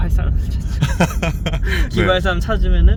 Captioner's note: haha